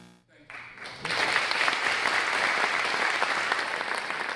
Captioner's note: audience clapping